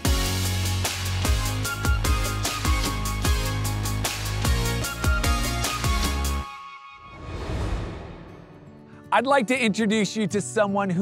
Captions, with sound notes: (transition whooshing) (upbeat music) I'd like to introduce you to someone